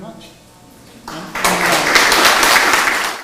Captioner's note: applause